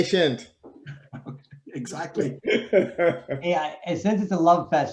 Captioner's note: laughing